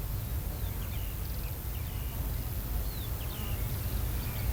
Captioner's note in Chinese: 鸣叫鸟